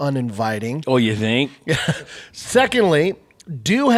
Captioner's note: laughs